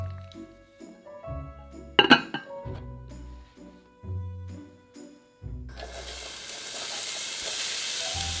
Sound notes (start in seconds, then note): 5.7 sizzling